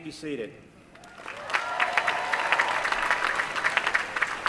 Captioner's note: applause